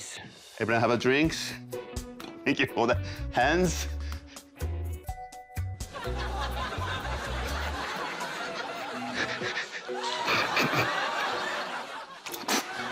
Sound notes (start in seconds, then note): 3.9 laughter; 7.2 breathes shakily; 11.2 laughter